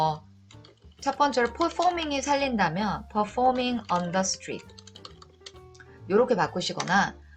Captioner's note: typing